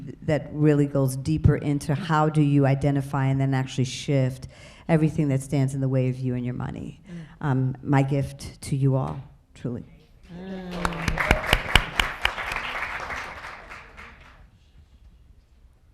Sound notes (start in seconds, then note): 10.3 audience applauding